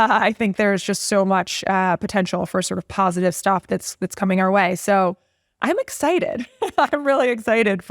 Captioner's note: laugh